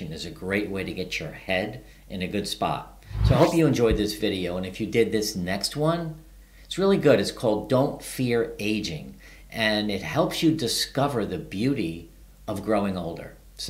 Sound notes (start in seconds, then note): 3.0 video whooshing